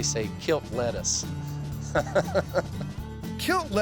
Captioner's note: chuckles